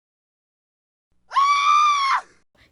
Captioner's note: scream